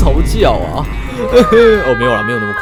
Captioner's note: sob sob